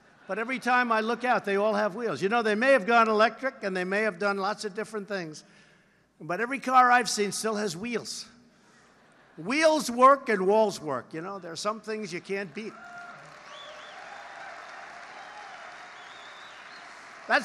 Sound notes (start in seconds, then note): 8.9 laughter; 12.1 applause